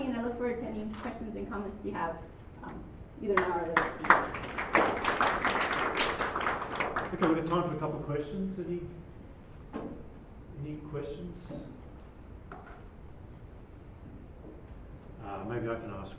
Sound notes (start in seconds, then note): 3.3 applause